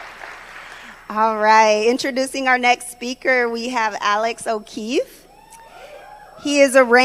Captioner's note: applause